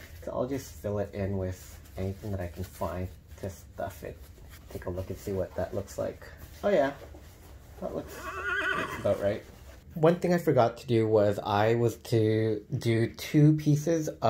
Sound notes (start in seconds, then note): 8.0 horse neighing sound